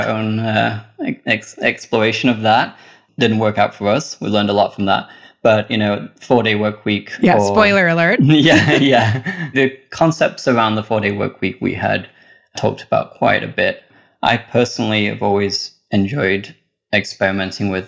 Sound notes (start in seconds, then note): 8.2 laughs